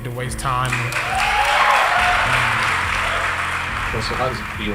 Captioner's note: applause